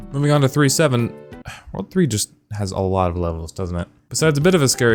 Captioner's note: sighs